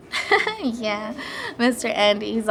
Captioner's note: laughs